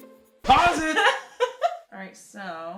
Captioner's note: laughs